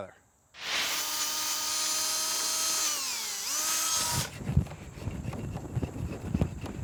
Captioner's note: sanding noises